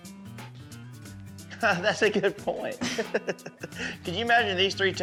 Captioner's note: chuckles